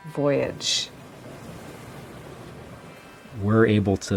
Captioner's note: sound of the ocean